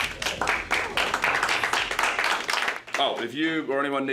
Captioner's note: class applauds